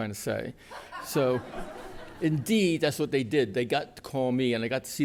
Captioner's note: laughter